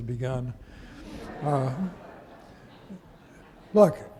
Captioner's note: audience laughing